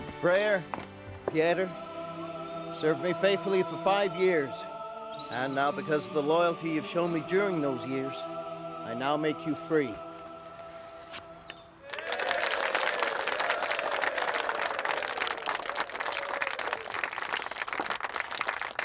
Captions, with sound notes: - Freya, Pieter you've served me faithfully for five years and now because of the loyalty you've shown me during those years I now make you free. (audience applauding)